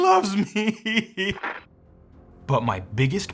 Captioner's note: sobbing